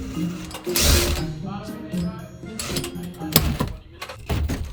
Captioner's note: drill whirs